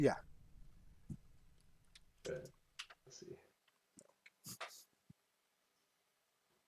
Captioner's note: chuckles